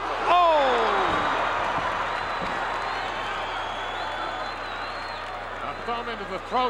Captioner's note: crowd gasps